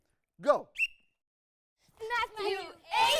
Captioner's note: whistle blowing sounds